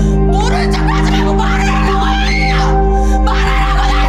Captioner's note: intense music; speaking Korean